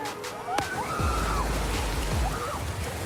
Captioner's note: excited screaming